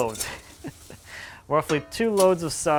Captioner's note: laughs